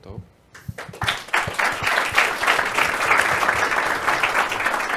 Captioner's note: audience applauds